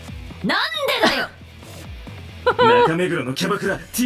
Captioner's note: scoffs